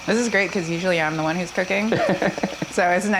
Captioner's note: laughs